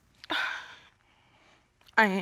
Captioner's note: sniffles